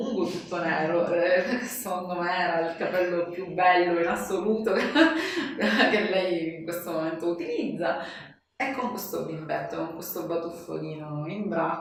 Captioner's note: laughs